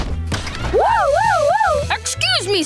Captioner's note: imitating siren